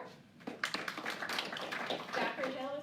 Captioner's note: applause